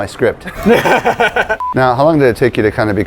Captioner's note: laughing; beeping